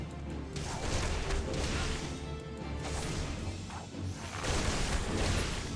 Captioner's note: gunshots